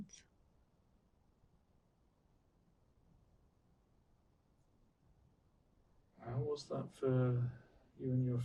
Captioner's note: pauses 6 seconds